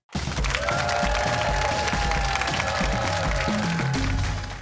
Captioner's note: cheers and applause